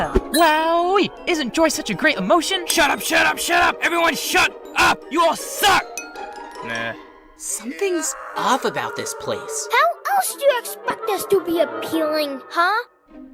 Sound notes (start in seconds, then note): 5.9 dink; 7.6 thermos screaming in the distance